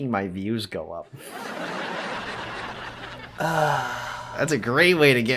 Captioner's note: laugh track, groans in parasocial relationships